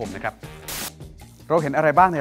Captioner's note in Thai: เสียงโทรทัศน์